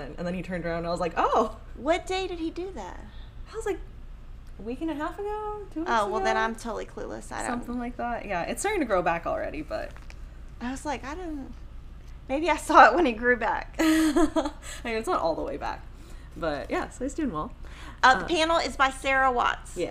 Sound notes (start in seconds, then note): 13.8 chuckles